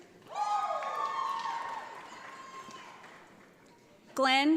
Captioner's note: audience applauds